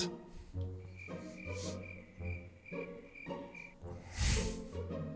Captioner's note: cricket noises